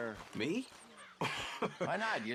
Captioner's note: laughs